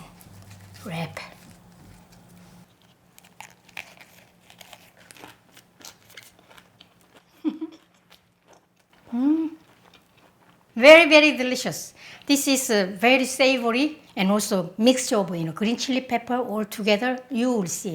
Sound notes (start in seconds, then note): 5.2 crunches; 5.2 laughs